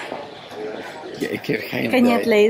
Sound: laughs

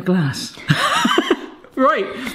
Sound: both laugh

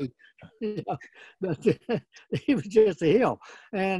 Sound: laughing

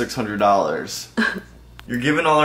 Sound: soft chuckle

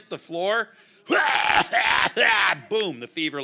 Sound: retching

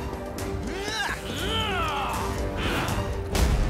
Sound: both grunt, groan

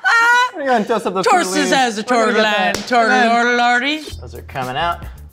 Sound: laughing; stammering

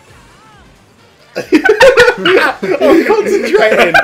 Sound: they laugh

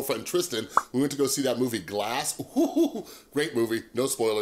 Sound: popping

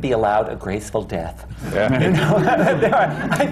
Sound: laughter

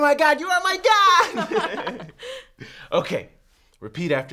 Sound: both laugh

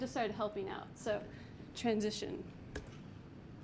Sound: clicks mouse

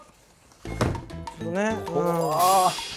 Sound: thump

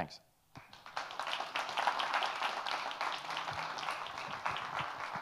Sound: audience applauding

